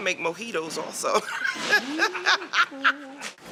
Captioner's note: laughs